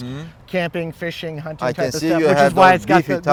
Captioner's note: güler